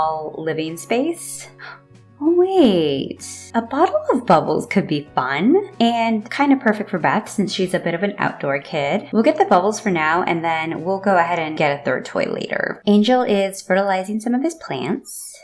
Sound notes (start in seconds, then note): 1.6 gasp